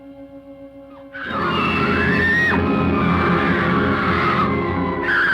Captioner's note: screaming